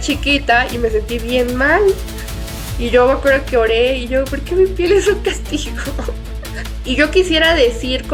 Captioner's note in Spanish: risas